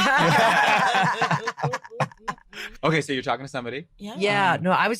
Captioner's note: group laughing